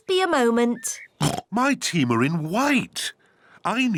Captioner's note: oinks